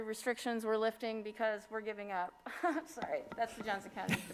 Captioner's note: laughs